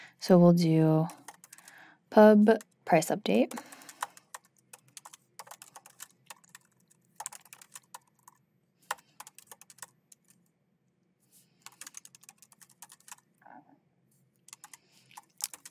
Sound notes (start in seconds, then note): 7.2 keyboard clacking